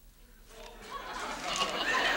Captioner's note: audience laughs